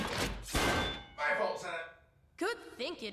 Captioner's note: loud clank